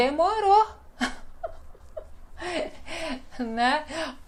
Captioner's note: laughs